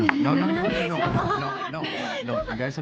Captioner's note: giggling